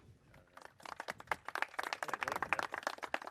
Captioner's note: clapping